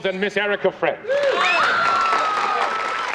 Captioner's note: all cheering